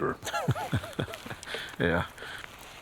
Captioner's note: man laughs